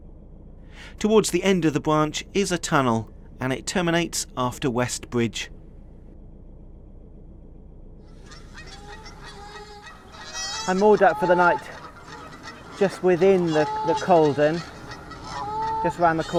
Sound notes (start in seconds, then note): 8.1 canada Geese Honking